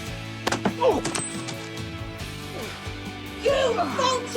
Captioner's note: loud thud